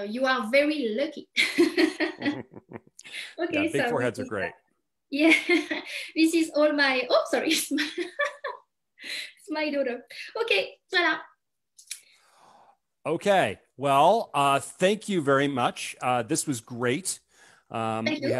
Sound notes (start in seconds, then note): 1.7 chuckles; 5.0 chuckles; 7.9 laughs